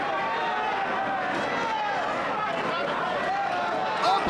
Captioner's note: overlapping chatter